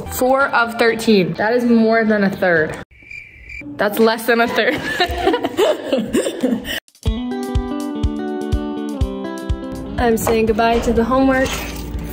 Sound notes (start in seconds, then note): 4.5 laughs; 6.8 upbeat music